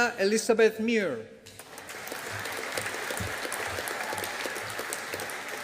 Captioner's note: audience applauding